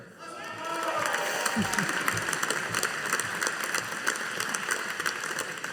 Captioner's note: audience applauding